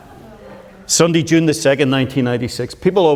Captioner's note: audience laughs